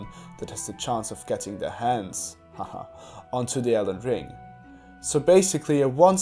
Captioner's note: haha